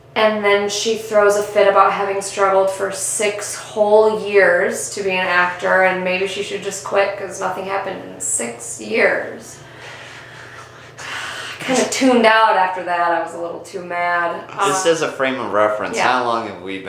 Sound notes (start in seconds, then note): 9.6 deeeeep breath